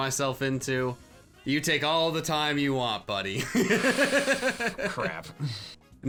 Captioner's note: laughs